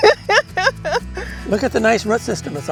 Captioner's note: laughing